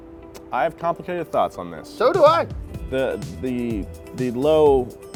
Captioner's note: none